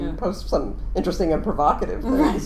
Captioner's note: laughing